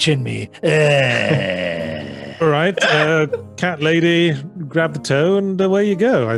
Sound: groaning

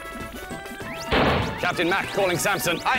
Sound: bang!

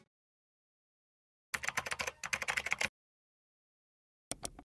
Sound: keyboard keys tapping

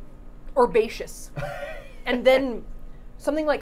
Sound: laughing

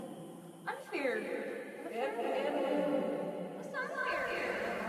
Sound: arguing

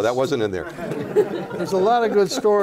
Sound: laughter

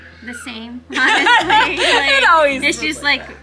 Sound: group laughs

